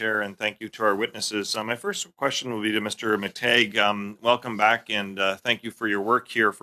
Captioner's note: speaking French